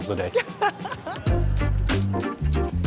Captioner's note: laughs